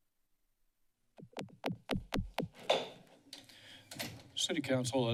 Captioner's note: silence; microphone tapping